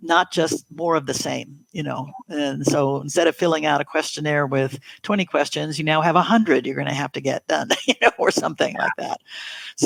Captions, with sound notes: not just more of the same, you know? And so instead of filling out a questionnaire with 20 questions, you now have 100 you're gonna have to get done, (chuckles) or something like that.